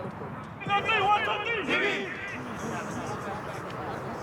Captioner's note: team huddle chants